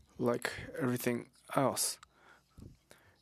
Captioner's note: speaking French